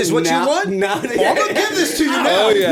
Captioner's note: laughter